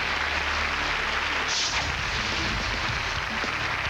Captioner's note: applause